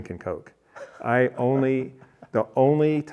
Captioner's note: laughing